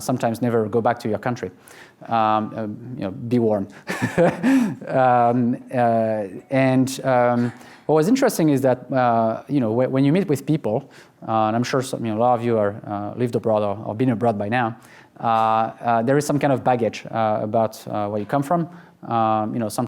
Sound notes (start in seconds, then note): 3.9 laughs